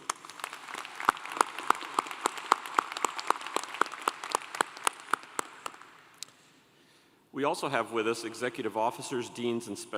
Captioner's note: applause